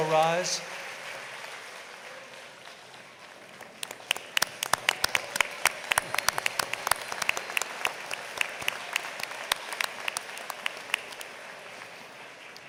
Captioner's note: applause